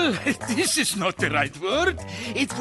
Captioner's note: chuckling